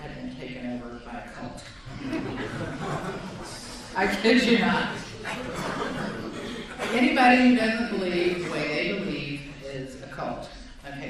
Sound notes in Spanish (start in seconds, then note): 1.8 Risas de la audiencia